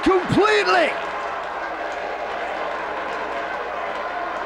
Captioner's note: spectators cheering